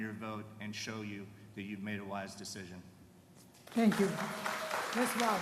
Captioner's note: applause